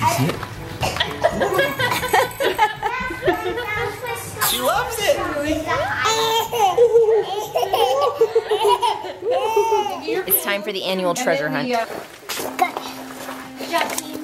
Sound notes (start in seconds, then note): 0.8 laughing; 6.0 baby cooing and laughing